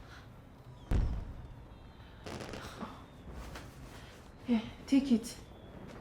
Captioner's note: fireworks crackling